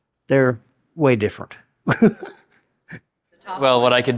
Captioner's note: laughs